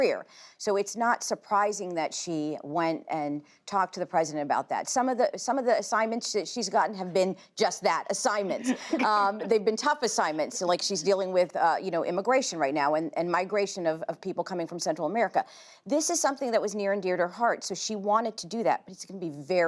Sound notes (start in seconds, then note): 8.4 laughter